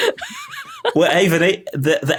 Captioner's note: stammers